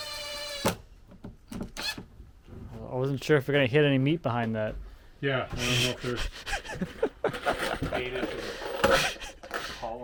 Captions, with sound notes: (drill whirring) I wasn't sure if we're gonna hit any meat behind that. - Yeah, I dunno if there's a dated column back there.